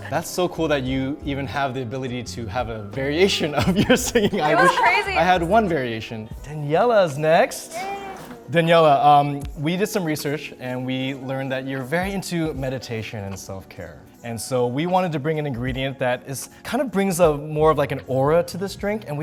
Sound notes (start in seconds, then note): 3.4 laughing